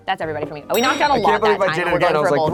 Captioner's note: bell clicking sound